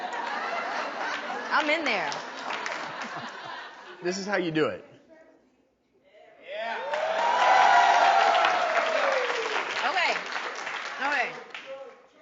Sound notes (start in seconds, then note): 0.0 audience laughing; 6.7 audience applauding